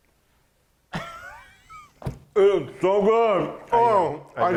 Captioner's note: laughs